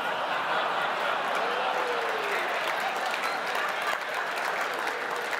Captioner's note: audience laughing; audience applauding